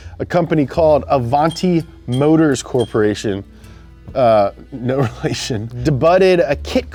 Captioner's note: laughs